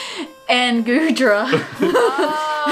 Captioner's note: both laugh